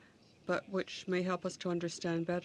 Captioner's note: speaking in french